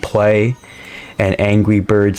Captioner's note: inhales Oxygen